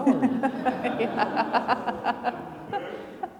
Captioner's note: attendees laughing